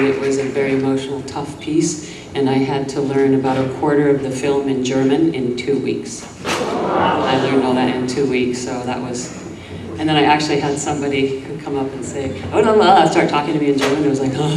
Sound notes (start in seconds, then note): 6.5 audience gasps